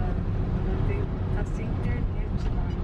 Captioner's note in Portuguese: som de conversas